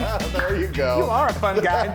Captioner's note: chuckles